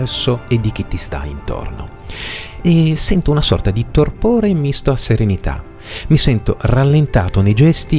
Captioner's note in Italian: sbuffare